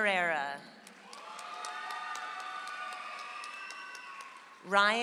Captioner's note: audience applauds